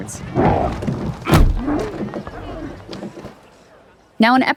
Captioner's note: Slurp grumbling